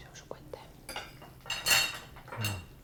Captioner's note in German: Flüsternd